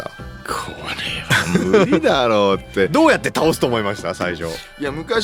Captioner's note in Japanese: 笑い